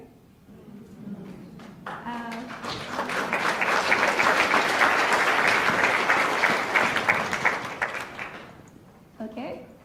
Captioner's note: applauds